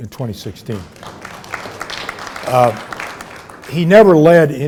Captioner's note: audience applauding